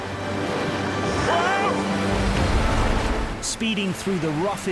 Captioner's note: waves gush